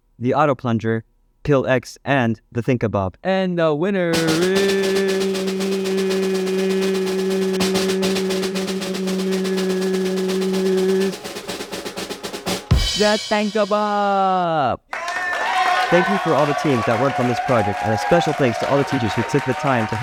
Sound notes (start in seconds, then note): 14.9 applause